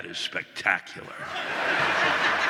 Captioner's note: audience laughing